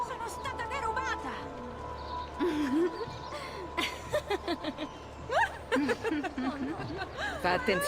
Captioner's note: she and the others laugh